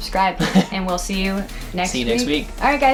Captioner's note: laughing